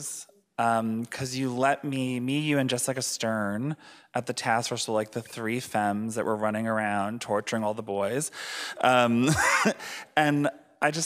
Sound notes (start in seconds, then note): 9.1 laughing